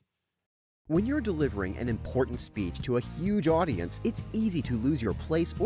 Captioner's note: voiceover